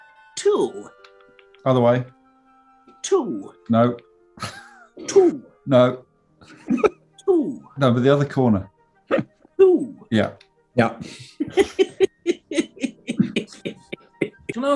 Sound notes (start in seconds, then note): 4.3 sniggering; 6.4 giggling; 11.2 giggling